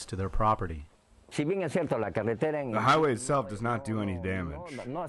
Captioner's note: through translator